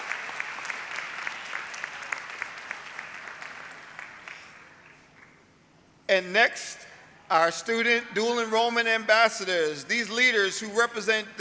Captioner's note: applause